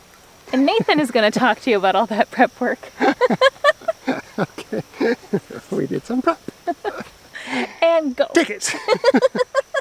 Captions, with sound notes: Nathan is going to talk to you about all that prep work. [laughing] We did some prep. and go, take it.